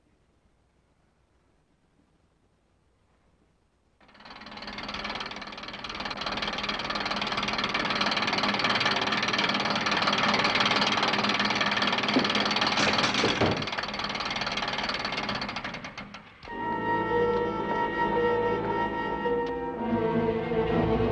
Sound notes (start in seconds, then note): 4.3 machine whirring; 16.4 suspenseful orchestral music